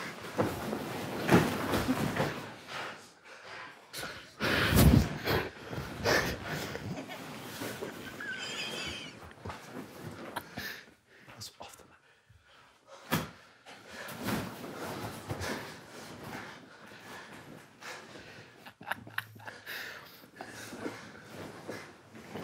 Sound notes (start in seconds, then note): 0.0 sumo suits rustling continues; 4.4 breathing heavily; 5.9 group quietly laughing; 13.8 sumo suits rustling; 18.2 group quietly laughing